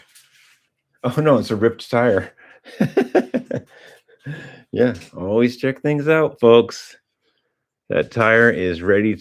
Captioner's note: laughter